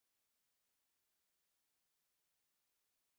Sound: none

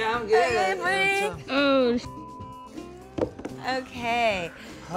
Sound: beep

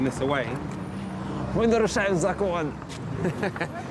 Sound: speaking in foreign language

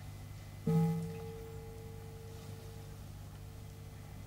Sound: bell rings

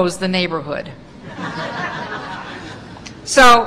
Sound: laughter

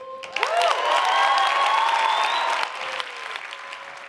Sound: audience applauds

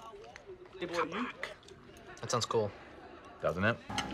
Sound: quietly

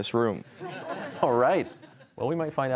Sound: laughter

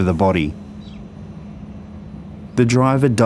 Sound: train idling

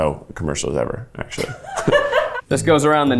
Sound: producer laughing

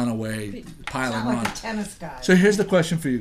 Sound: voiceover

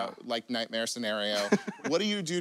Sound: laughs

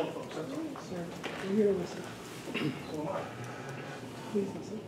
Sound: faint chatter

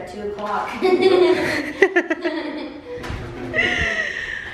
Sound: laughter

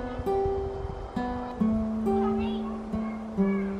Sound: relaxing music; children chatting

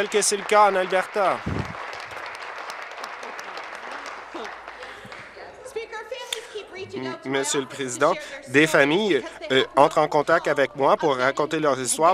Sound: applause

